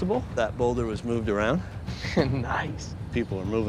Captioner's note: chuckles